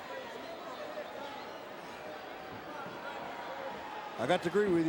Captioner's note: crowd murmuring